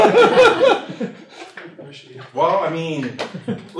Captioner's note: laughter